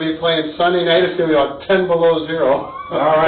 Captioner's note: laughs